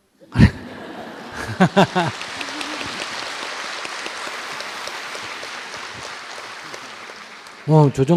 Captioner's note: audience Laughter, Applause